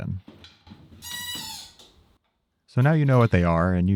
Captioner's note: machine squeaks